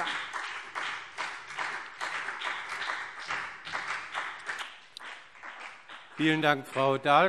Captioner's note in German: Beifall BÜNDNIS 90/DIE GRÜNEN